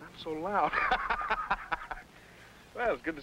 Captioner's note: men laughing